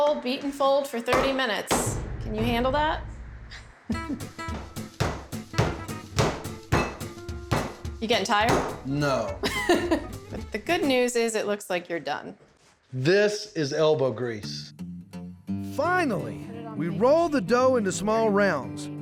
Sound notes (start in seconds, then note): 4.4 pounding sound; 8.8 says sarcastically; 9.4 chuckles